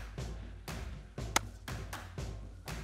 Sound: claps

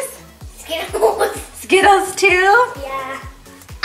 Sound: laughing

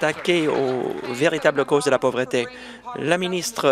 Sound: applause

